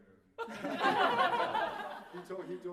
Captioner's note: laughter